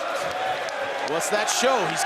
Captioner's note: audience cheers